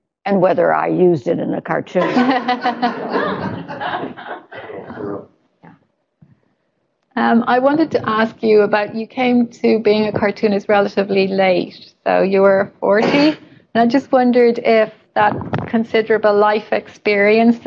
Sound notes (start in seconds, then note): 2.0 laughter